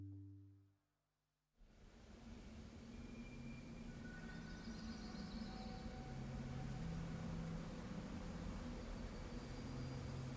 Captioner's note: desolate wind, chirping birds, low tones